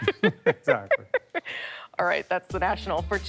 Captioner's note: laughter